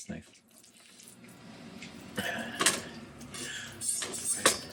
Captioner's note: crackling